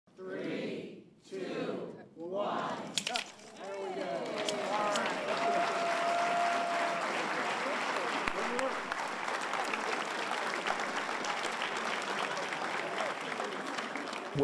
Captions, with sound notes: >> [ CROWD ] Three! Two! One! [ SCISSORS CUT RIBBON ] [ CROWD CHEERS ]